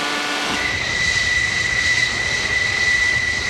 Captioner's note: plane noise